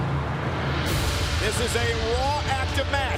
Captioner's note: crowd cheering